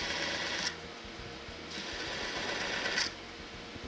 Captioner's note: machine whirring